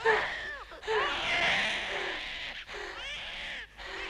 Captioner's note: Hundra breathing heavily; baby crying